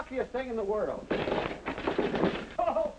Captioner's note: clattering